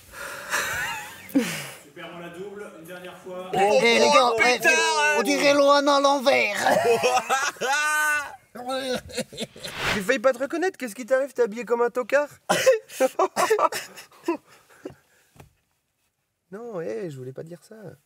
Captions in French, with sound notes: *rires* Oh oh les gars on dirait Loanna à l'envers ! *rires* J'ai failli pas te reconnaître qu'est-ce qui t'arrive t'es habillé comme un tocard ! *pleurs* Nan hé j'voulais pas dire ça